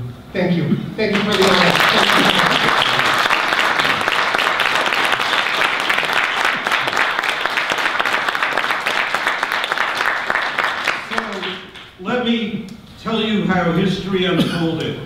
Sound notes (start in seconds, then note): 2.7 audience applause